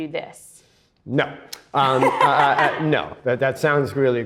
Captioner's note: laughs